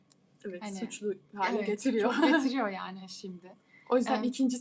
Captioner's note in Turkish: kahkaha